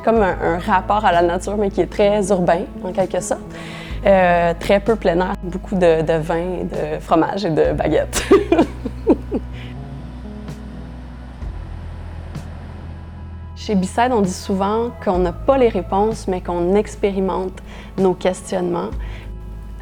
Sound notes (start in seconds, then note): 8.1 laughter; 10.5 soft music